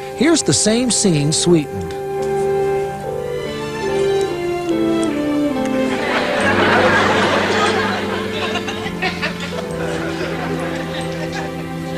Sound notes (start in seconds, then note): 6.0 laughter